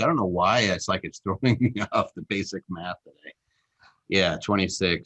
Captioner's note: chuckles